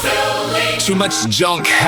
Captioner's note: engine drone, alarms